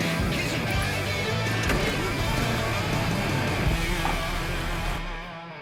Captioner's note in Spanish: Sonido al arrancar el motor